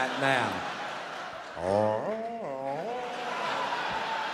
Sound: moaning

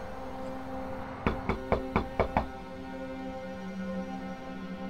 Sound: knocking on door

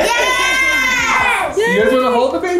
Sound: boys cheer

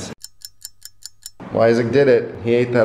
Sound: clock ticking

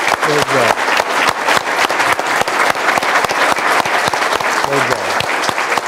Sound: applause

